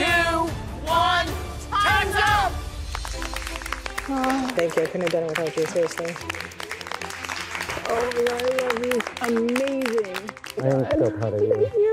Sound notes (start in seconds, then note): 2.3 applause